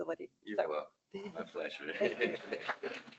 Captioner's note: more applause